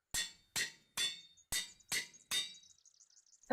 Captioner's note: metallic banging